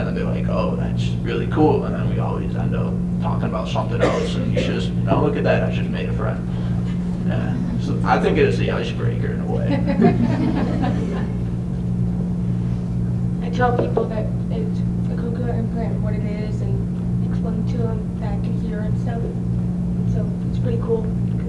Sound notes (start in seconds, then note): 9.6 laughter